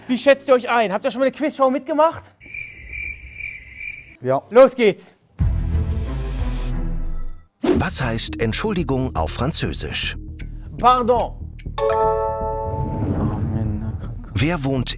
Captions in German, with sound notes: Habt ihr schon mal bei 'ner Quiz-Show mitgemacht? (Grillenzirpen) Ja. Los geht's. (Spannungsvolle Musik) Pardon.